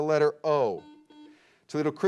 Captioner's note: beep